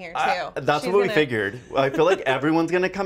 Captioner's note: laughs